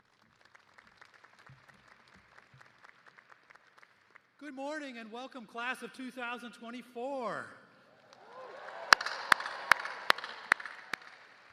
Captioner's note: applause